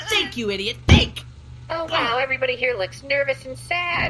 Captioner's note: bangs the desk